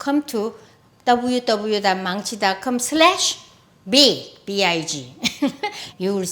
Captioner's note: laughs